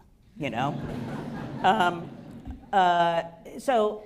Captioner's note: laughter